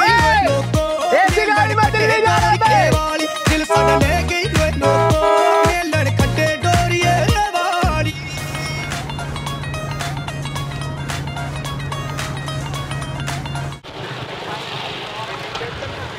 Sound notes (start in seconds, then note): 1.5 foreign Language; 6.6 foreign Music